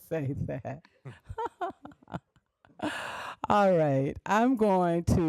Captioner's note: laughs